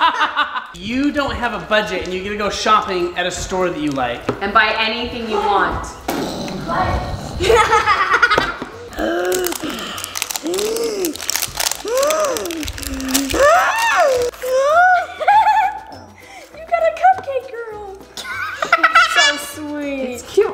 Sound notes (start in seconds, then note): 0.2 laughing; 5.8 explosion noise; 8.8 gasping